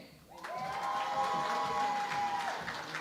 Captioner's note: cheering and Applause